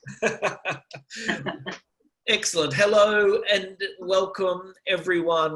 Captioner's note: laughs